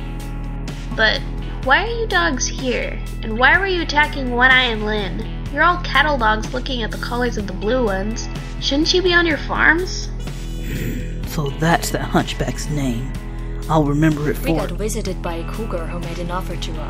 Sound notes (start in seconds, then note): 10.6 growls